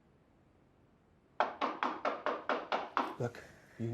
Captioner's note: knocking on door